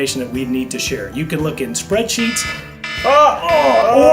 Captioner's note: buzzer dings